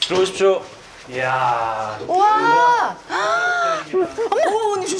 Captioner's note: the third guests make an entrance with exclamations